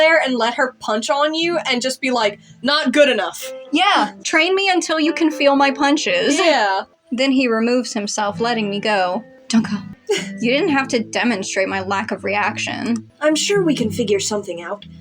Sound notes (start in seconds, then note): 10.0 chuckle